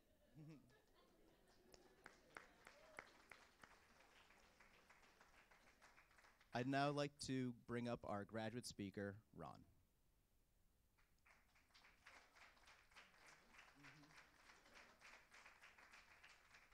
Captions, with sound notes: - She might have a little stage fright. (Laughter). (Cheers and applause). I'd now like to bring up our graduate speaker Ron. (Applause).